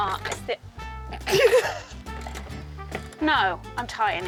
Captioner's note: laughs